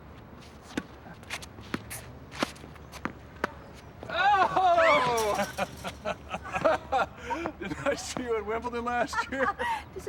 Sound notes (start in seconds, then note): 5.2 laughter